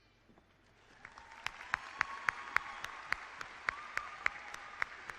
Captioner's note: clapping and cheering